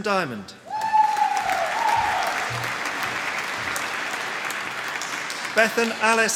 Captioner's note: applause